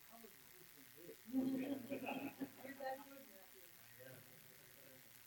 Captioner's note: quiet laughter